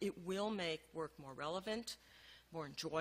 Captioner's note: none